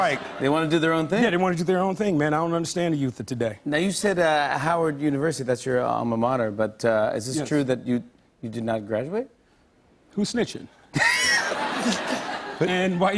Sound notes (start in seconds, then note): 11.0 laughter